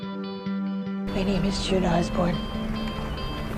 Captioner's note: voiceover